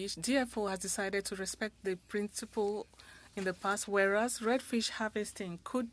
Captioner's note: speaking French